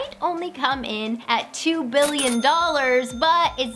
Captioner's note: cha-chinging